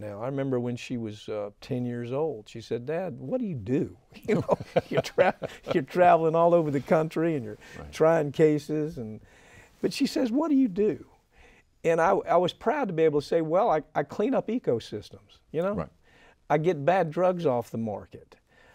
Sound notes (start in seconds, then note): 4.2 both laughing